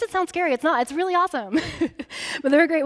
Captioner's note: chuckling